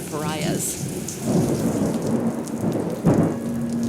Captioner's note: thunder crashes